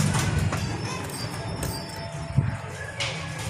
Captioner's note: doorbell tone